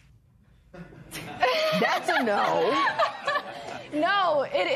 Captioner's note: laughter